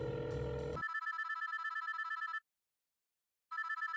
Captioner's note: phone ringing